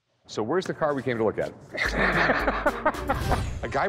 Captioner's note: laughter